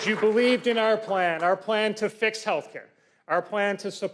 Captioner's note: applause